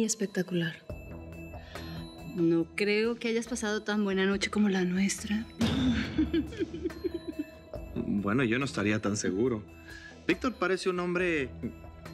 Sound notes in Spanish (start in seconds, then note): 5.8 risas